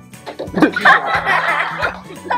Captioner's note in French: rires